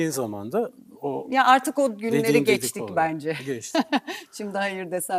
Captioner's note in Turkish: kahkaha